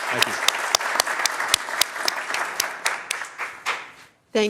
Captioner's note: applause